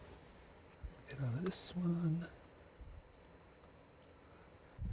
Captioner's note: whispering